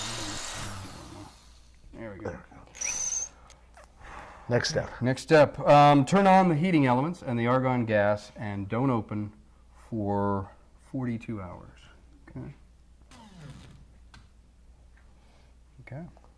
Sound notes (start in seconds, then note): none